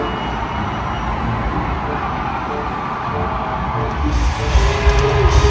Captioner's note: crowd cheering